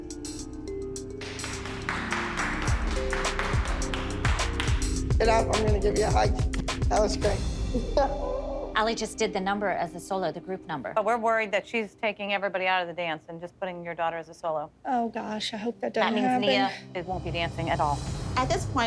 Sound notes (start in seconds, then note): 3.1 applause; 7.8 laughs